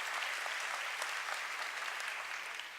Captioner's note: applause